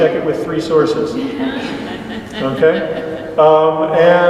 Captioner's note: laughter